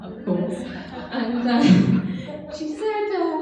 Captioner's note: laughing